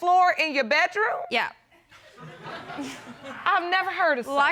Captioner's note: chuckles; audience laughing